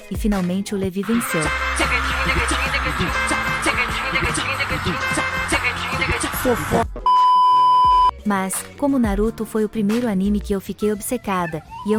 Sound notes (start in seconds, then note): 1.0 applause + ♬ ♬